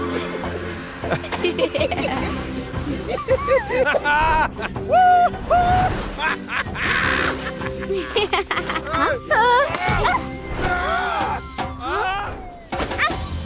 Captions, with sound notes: (laughing) Woo-hoo! (laughing) - Huh? Ah! (gasping) (shouting)